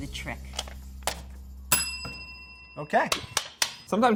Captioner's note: bell dinging